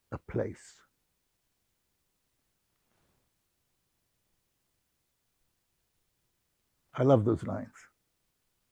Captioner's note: pauses 6 seconds